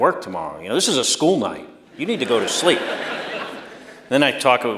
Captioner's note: laughter